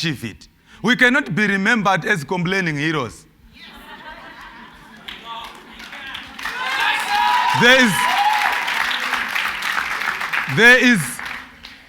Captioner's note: cheers and Applause